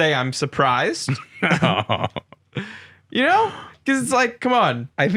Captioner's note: laughing